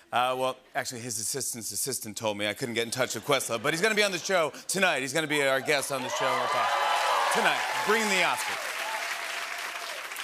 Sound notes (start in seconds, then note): 5.5 cheers and applause